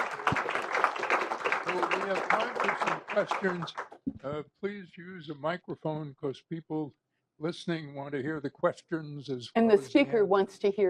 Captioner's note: applause